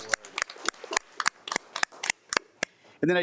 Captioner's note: attendees applaud